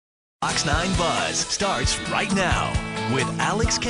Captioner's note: voiceover